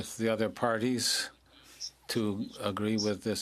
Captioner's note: speaking French